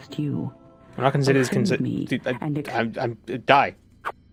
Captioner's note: stammering